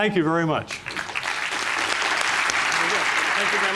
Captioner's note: applause